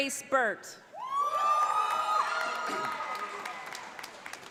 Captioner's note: audience applauds